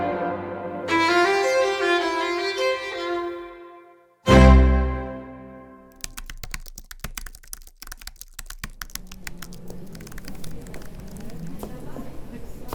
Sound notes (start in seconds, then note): 0.0 music fades; 1.5 typewriter sounds